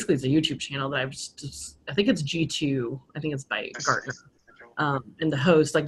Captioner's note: speaking faintly